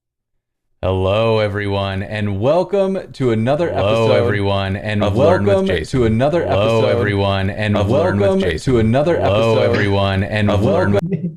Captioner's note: echoing